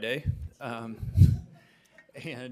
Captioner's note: board members laughing